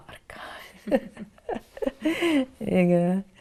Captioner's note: laughing